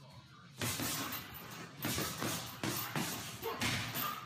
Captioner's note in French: coups faisant écho